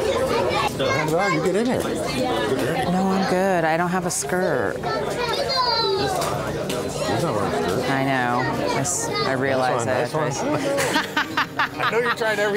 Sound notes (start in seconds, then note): 2.3 softly talks off mic; 5.4 children loudly chattering; 10.7 loudly laughing